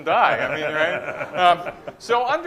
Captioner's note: laughter